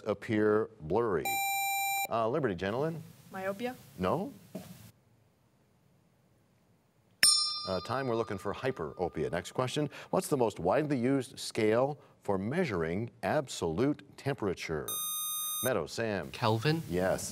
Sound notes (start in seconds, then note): 9.0 bell rings, time expires